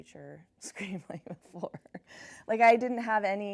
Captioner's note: chuckles